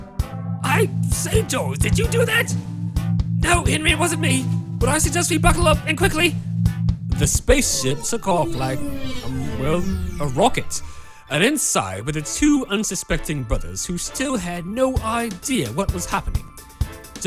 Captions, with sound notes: I say George, did you do that? [Low Rumbles] No Henry it wasn’t me, but I suggest we buckle up and quickly! The space ship took off like a umm well a rocket [Space ship blasts off] and inside where the two unsuspecting brothers who still had no idea what was happening.